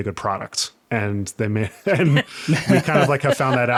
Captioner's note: all laughing